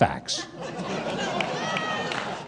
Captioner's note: crowd laughing